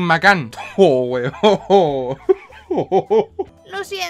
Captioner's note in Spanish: dylan agonizando